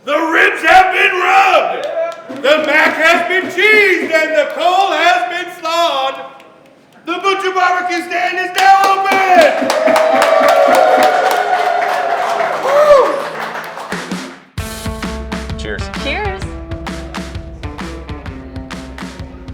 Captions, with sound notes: The ribs have been rubbed, the mac has been cheesed, and the cole has been slawed! The Butcher Barbecue Stand is now open! (crowd cheering) Whoo! (upbeat music) - Cheers. - Cheers.